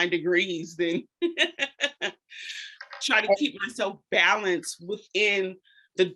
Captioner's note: laughs